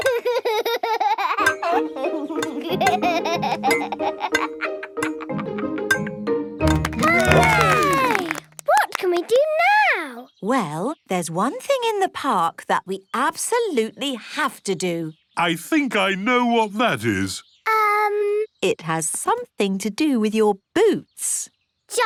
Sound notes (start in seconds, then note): 0.1 laughs; 6.7 all cheer